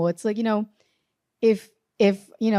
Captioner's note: none